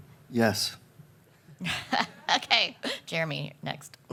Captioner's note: laughs